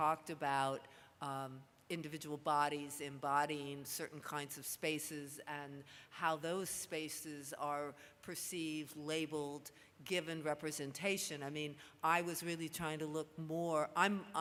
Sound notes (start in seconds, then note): none